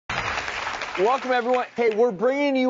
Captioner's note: audience applauding